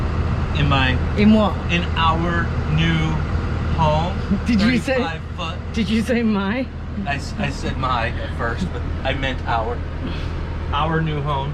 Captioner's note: chuckles